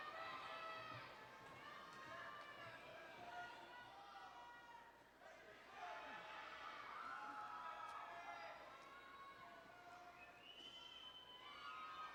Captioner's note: cheers and Applause